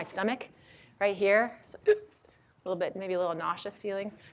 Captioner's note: gasps